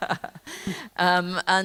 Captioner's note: laughter